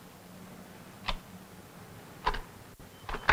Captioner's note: camera clicks